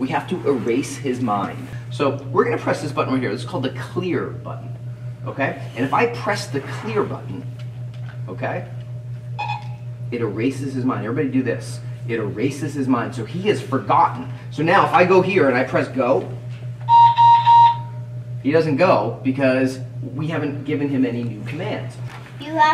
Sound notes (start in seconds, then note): 9.4 beep; 16.8 beeping